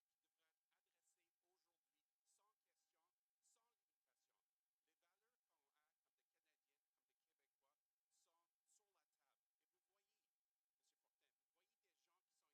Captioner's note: speaking French